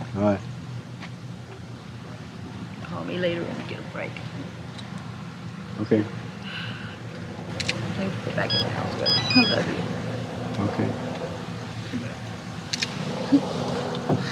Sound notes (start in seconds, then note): 6.4 sighs